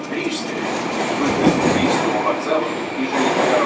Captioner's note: opening doors